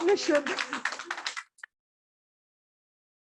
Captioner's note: applause